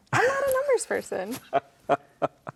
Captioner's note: host laughing